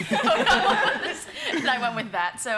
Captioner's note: laughter